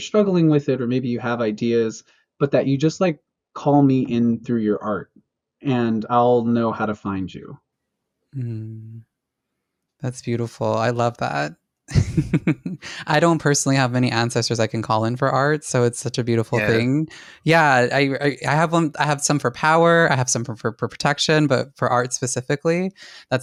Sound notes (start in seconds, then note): 11.9 laughs softly